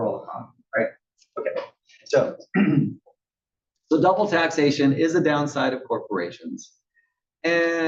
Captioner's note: cough